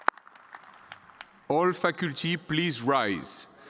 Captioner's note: applause